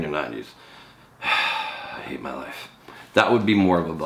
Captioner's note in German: seufzt